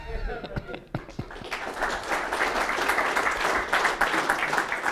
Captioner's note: laughter; applause